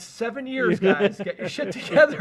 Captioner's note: laughs